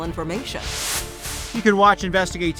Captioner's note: screen hisses